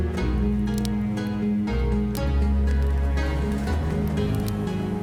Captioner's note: fire crackling